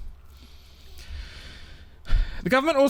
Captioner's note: deep sigh